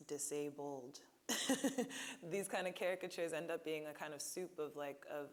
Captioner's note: laughing